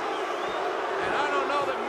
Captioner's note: crowd booing